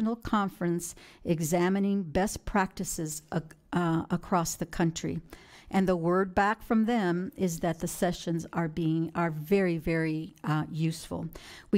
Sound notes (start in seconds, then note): none